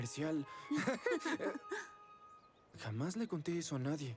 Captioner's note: giggles